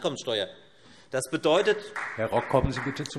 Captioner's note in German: Vereinzelter Beifall Freie Demokraten